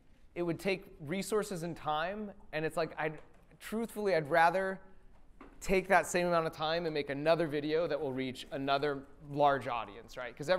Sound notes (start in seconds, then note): none